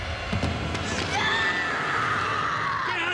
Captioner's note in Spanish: Grito